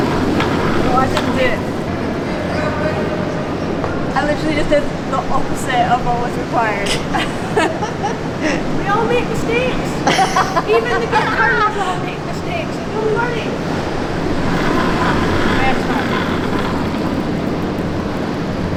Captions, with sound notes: - Oh, I didn't do it. I literally just did the opposite of what was required. (both chuckling) - We all make mistakes, even the great curlers all make mistakes, you're learning. (curling stone roaring)